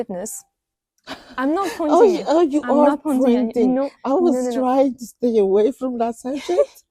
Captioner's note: laughs